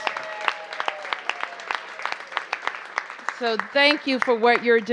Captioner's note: cheers and applause